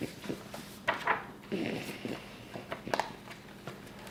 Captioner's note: pages flipping